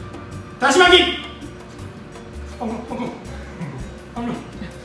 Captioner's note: speaking Japanese